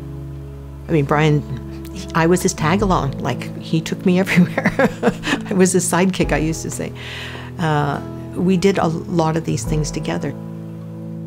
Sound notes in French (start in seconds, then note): 5.9 rires